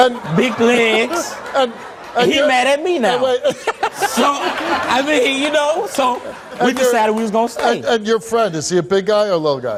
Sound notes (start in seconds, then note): 3.1 Steve laughs